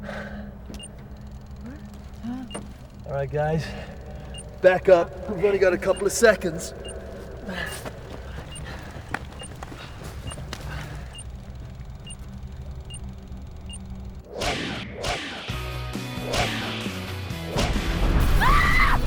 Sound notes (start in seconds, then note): 6.6 beeping sounds; 8.0 whooshing sounds; 15.2 upbeat music; 15.2 whooshing sounds; 16.4 tiny explosion